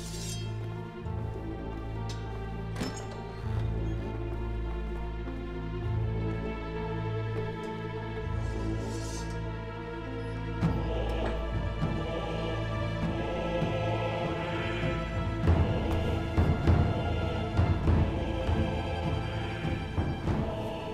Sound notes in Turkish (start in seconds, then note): 0.0 Müzik - Gerilim; 2.7 Kapı sesi; 4.4 Müzik - Gerilim; 14.3 Kilise müziği